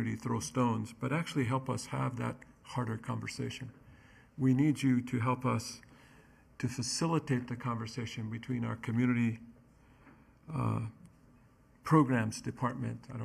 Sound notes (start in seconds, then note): none